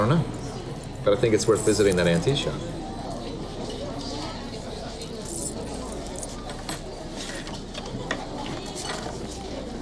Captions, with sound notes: - I don't know, but I think it's worth visiting that antique shop. (indistinct restaurant chatter)